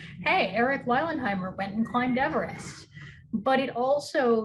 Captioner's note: none